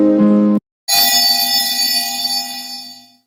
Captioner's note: ringing